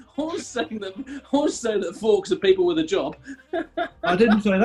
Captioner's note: laughing